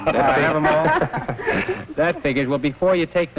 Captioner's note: everyone laughs